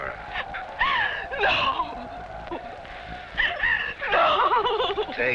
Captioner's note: whimpers